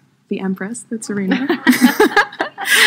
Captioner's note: laughs